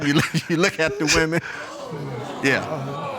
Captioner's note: chuckles